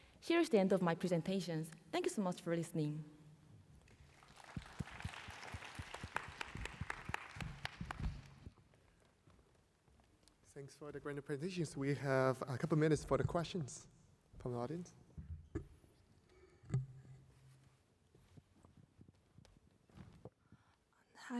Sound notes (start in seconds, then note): 3.9 applause